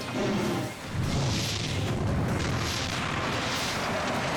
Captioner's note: dramatic music continues; vehicle crashing; dramatic music continues